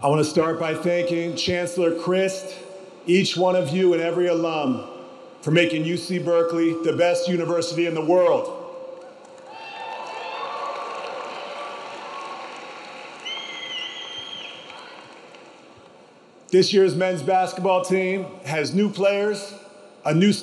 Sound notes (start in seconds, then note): 9.2 audience clapping; 9.4 audience cheering